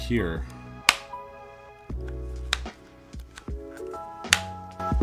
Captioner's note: buttons clicking